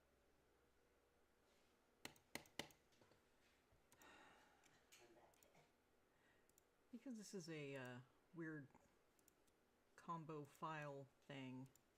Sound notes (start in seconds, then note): 0.0 mouse and keyboard clicking; 2.0 frustrated mouse clicking; 4.0 exasperated sigh